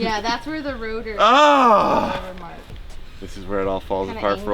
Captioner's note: shouting